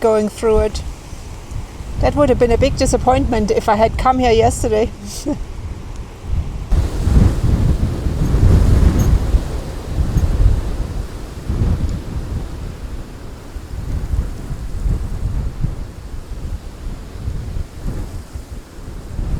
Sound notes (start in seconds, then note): 6.1 strong wind